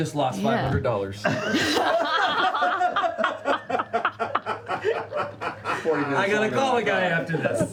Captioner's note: laughter